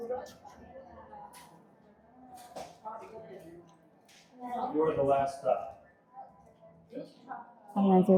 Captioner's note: people chattering